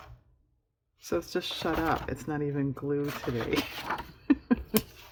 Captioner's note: laughs